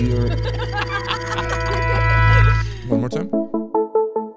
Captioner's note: people laughing